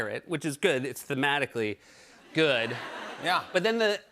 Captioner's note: laughter